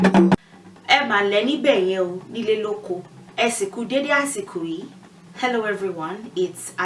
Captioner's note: greeting you in Yorùbá